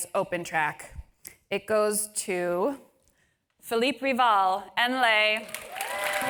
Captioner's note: applause